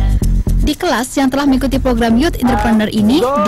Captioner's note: non-english speech